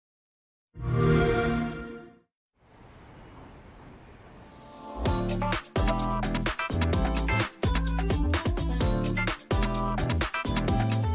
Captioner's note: xbox sound